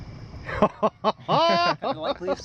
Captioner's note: ha ha ha ha!